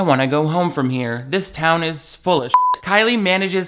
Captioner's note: beep